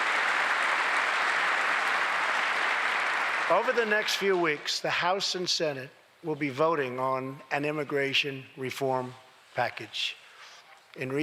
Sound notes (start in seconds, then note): 3.0 applause